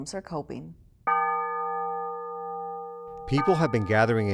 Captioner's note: bell ringing